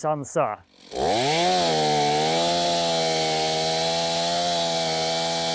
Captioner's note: chainsaw whirring